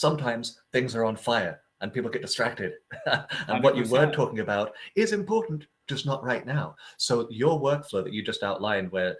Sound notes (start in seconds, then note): 2.8 laughing